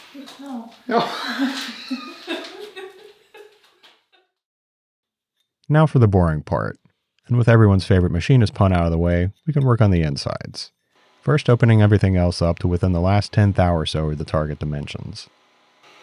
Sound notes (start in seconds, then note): 0.8 wife laughing